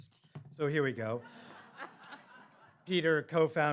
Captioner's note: audience laughing